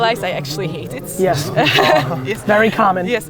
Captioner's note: laughs